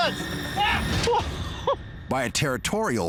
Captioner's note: man 1 laughs